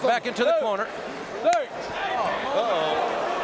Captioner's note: hand smacking